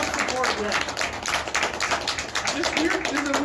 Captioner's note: audience still clapping